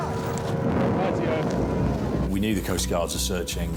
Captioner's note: lifeboat engine whirring